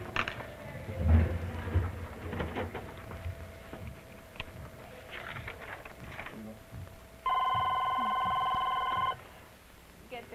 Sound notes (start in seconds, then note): 0.1 ambient office noise, drawer opens, paper rustles; 6.7 phone rings